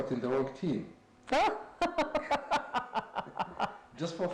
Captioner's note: laughs